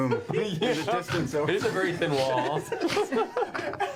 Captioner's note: all laugh; snorts